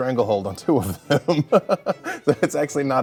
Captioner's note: laughs